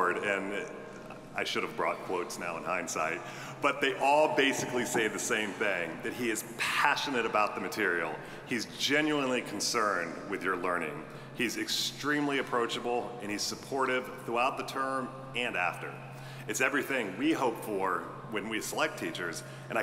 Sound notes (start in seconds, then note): none